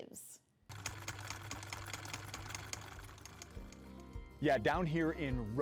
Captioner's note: typewriter keys clack